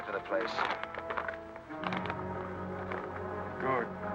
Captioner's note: paper rustling